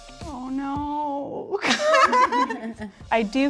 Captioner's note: laughs